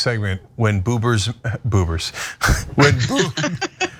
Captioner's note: laugh